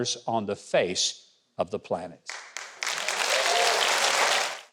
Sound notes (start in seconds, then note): 2.3 audience applauding; 2.5 audience cheering